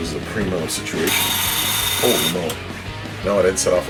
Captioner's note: loud buzz